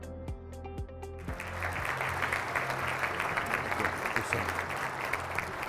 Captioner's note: audience clapping